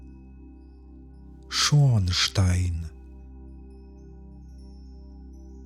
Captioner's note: german